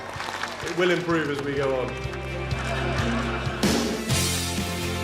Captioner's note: laughing